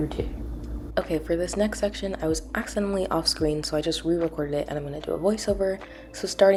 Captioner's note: voiceover